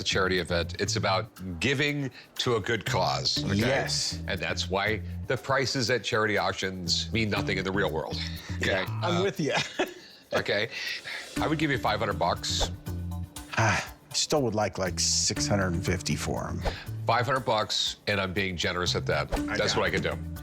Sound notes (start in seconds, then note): 8.5 chuckles